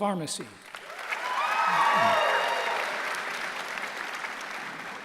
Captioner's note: applause